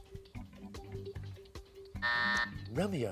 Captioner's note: buzzer